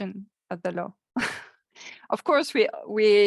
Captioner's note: chuckling